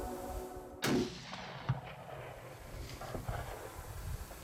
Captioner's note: gunshot